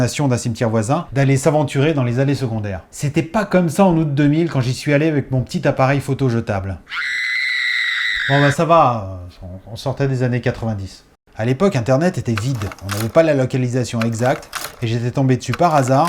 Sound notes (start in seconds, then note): 6.1 shout